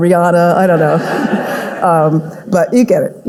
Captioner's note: audience laughing